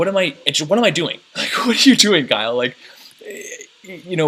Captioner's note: chuckles